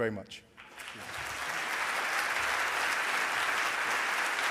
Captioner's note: applause